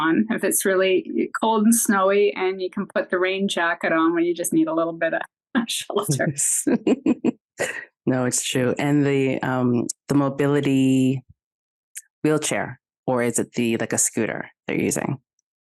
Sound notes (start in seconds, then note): 6.6 chuckles